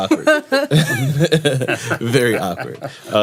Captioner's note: laughter